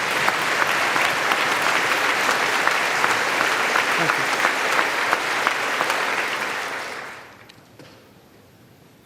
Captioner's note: applause